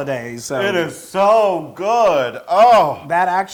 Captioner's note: laugh